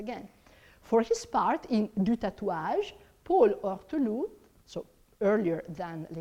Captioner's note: speaks in foreign language